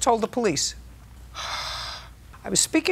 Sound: exhales loudly

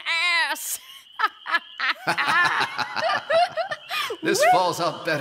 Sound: Puck and Oberon laugh

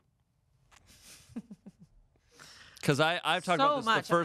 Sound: laughs

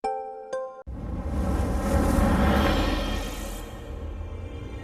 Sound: dramatic sounds

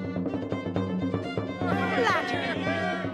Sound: crowd cheers

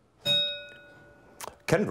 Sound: bell rings

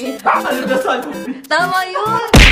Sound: laughs

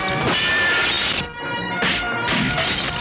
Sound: glass Breakage

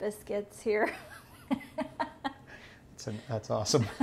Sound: laughs

